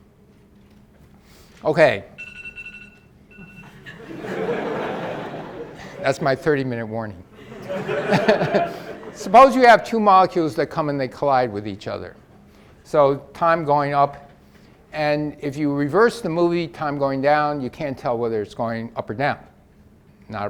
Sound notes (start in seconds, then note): 3.3 alarm dings loudly; 3.6 audience laughs